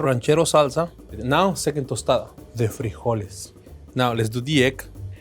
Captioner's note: speaking in foreign language